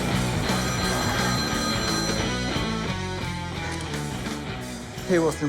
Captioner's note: phone ringing